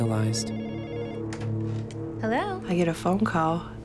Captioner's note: telephone rings